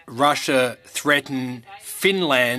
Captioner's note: speaking French